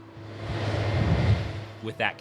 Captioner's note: machinery whirring